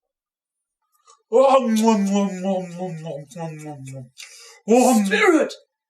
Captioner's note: eats ravenously